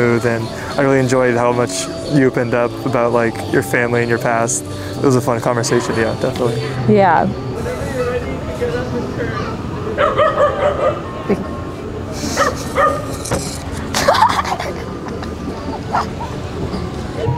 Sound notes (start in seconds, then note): 10.0 dog barks; 13.9 laughs